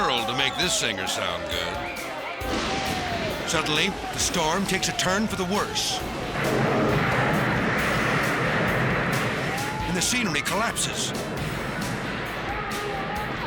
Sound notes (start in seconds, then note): 6.5 thunder crashes